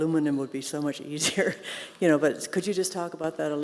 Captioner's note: laughs